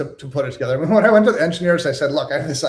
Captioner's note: laughs